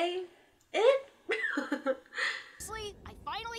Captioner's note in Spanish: risa de desconocimiento